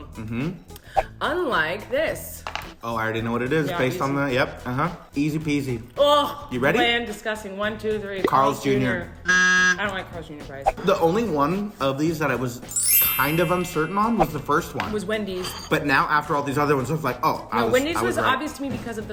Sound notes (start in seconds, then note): 9.2 sound of buzzer